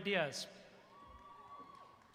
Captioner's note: applause